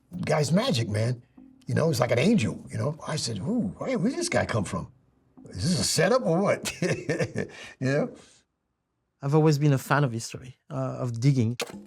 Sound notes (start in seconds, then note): 6.3 laughs